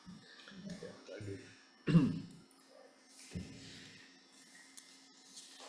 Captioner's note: speaker speaking away from mic